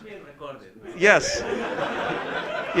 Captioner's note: laughter